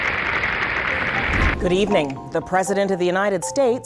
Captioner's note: applause